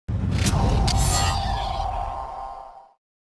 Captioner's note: whooshing